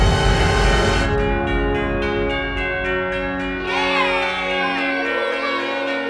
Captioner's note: suspenseful music; chimes ringing; cheering